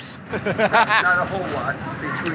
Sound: laughter

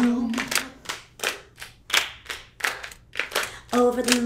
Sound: clapping continues

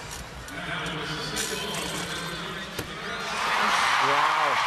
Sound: noise over loudspeaker; audience cheering

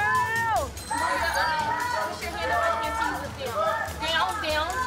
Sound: audience shouting

